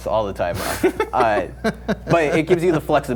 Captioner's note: laughing